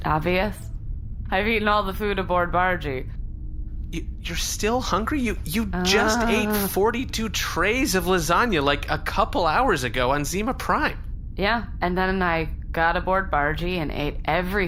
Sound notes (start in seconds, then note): 5.1 groans